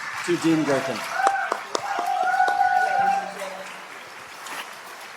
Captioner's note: cheering and applause